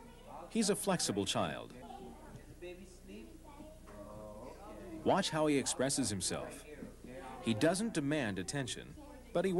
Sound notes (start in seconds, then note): 1.3 people talking